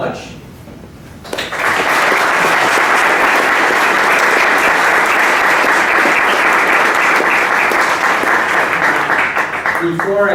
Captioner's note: applause